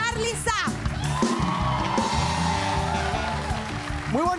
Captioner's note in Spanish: Aplausos